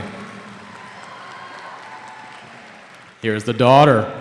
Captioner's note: cheering